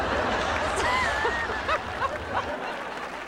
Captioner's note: laughing